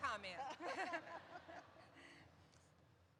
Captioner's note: laughter erupts